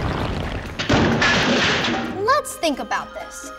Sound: circle crashing

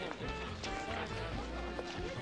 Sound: people chattering

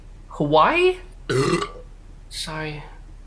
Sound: burps

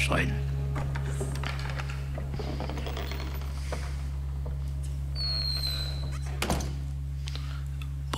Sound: 'sneaking out of the room' Sound Effect

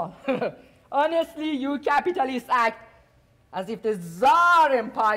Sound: softly chuckles

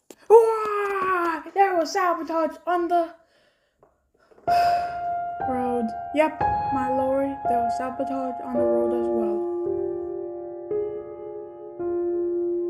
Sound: sighs

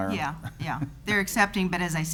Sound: giggles

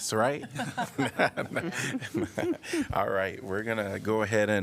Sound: laughter

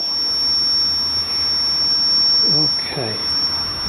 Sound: feedback squeals

